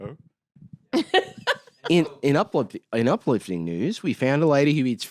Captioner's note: laughs